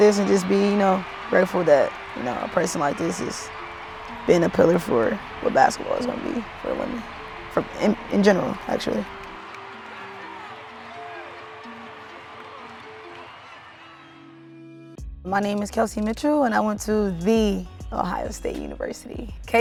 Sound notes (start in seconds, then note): 9.9 crowd cheering; 9.9 mellow music